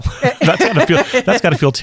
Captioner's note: laughing